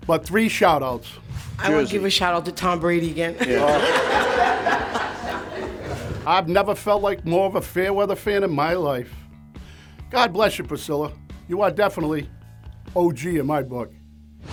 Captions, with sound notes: But three shout outs. I want to give a shout out to Tom Brady again! (spectators laugh) I've never felt like more of a fair weather fan in my life. God bless you, Priscilla. You are definitely OG in my book.